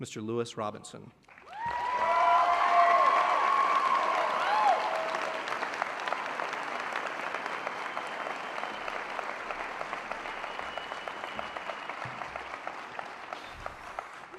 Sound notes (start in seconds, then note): 1.2 applause and Cheering